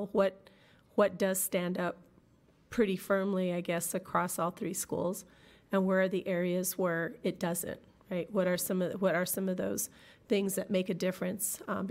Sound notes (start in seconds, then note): none